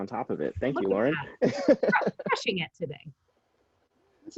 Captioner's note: laughing